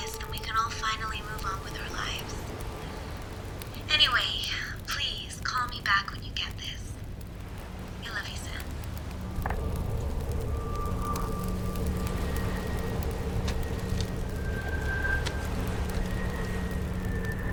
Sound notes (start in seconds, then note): 9.9 fire crackling; 11.8 waves crashing